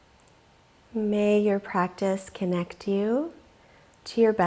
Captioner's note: deeply inhaling